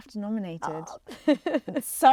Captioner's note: laughs